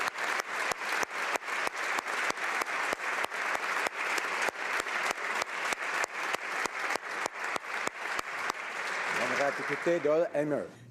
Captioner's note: applause